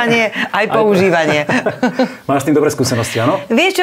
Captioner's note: laughs